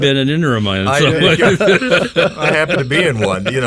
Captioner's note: group laughing